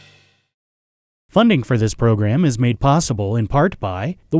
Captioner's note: voiceover